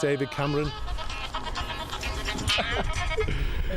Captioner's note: phone rings